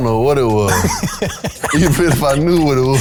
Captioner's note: laughing